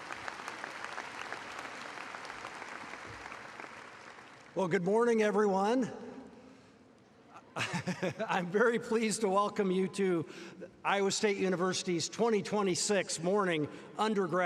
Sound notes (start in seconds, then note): 4.4 applause